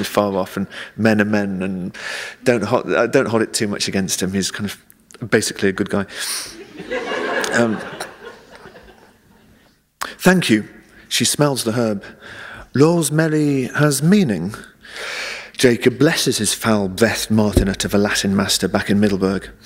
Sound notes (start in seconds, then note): 8.1 laughter